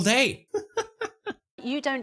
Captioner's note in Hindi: हंसते हुए